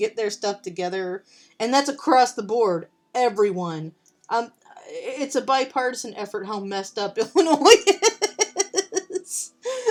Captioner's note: laughing